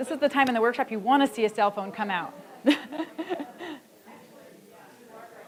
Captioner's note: laughs; audience chattering softly